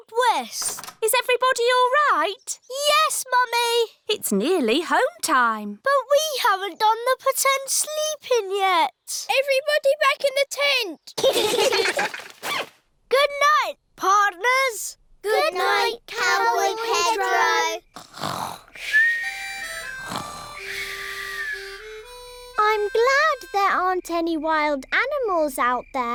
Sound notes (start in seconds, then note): 11.2 all giggling; 16.2 all snoring